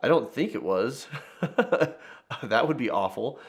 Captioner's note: laughing